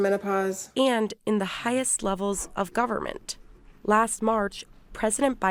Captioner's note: voice-over